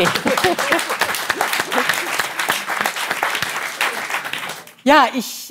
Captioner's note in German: Applaus